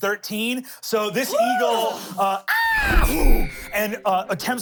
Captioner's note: caws